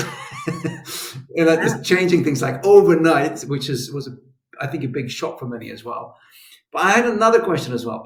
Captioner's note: schwoop